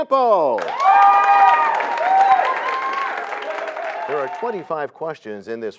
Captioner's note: cheers and applause